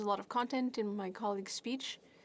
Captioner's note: speaking French